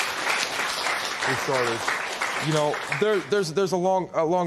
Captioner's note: applause